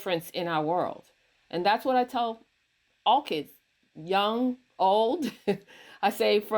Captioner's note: chuckles